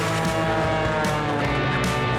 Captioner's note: airplane whirring; upbeat music